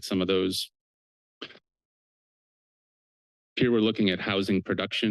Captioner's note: pause